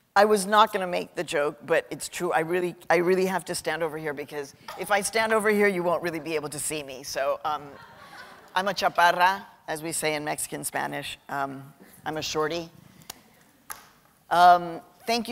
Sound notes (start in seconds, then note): 7.6 laughter